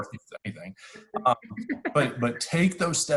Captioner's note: laughs